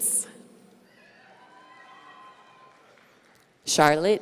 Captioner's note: audience cheering